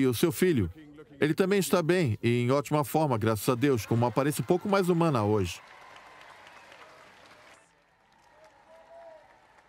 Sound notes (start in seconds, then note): 3.3 crowd cheering